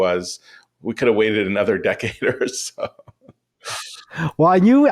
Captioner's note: laughs